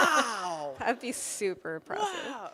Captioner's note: laughs